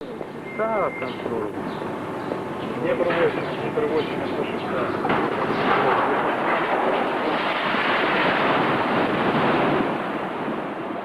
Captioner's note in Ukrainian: гуркіт від зсуву